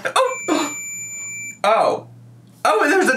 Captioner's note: Tamagotchi beeps